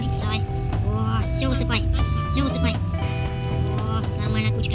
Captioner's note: say in a funny voice